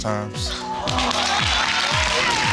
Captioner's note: audience cheering